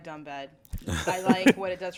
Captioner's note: laughter